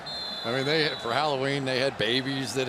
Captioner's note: whistle